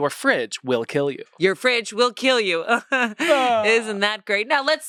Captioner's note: laughs